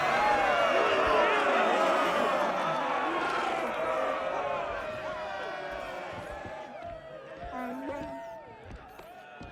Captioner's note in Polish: Aplauz